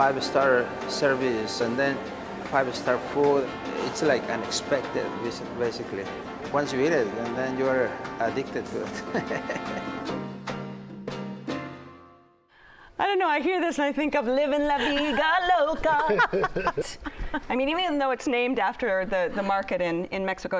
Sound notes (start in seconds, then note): 8.8 laughs; 14.7 laughter